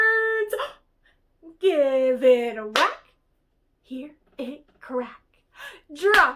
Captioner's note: clap